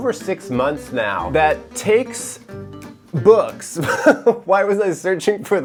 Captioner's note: chuckles